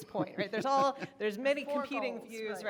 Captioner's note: man laughing